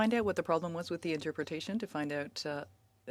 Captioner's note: speaking French